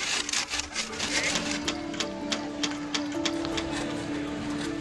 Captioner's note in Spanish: martilleo